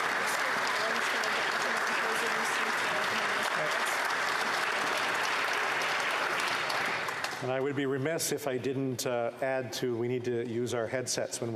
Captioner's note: applause